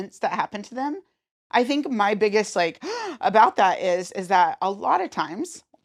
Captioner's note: gasp